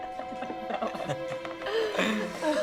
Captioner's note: laugh